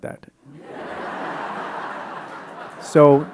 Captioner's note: audience laughing